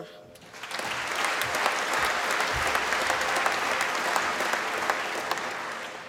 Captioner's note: applause